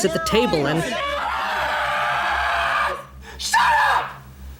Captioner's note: screaming